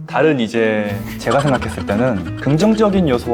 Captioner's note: trying not to laugh